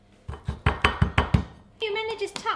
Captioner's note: fruit pounding table